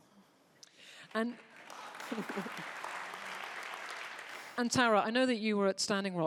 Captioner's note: audience applauding